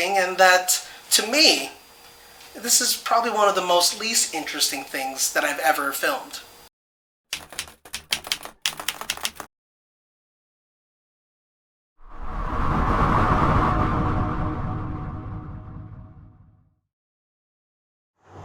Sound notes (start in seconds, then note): 7.3 keyboard keys clicking; 12.0 air whooshing